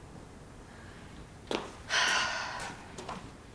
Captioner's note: sighs